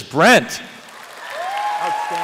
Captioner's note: applause